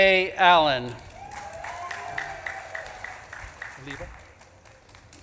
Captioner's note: audience claps and cheers